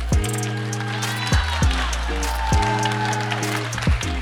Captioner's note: cheering